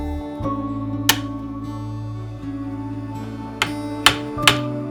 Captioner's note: pliers snaps; hammer banging